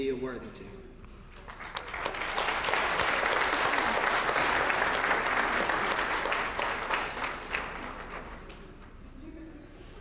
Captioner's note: applause